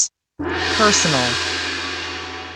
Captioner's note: gong